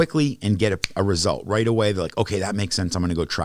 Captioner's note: snaps